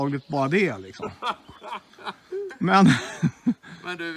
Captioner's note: chuckles